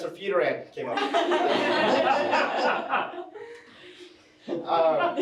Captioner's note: attendees laughing